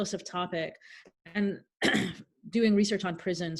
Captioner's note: clearing throat